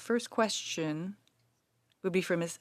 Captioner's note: speaking French